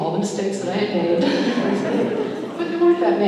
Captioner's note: laughter